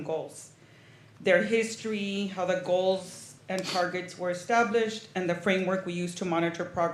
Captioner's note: snorts